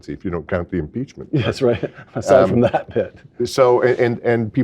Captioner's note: laugh